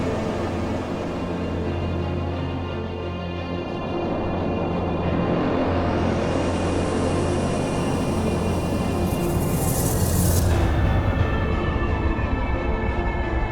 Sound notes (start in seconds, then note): 6.0 ship engine humming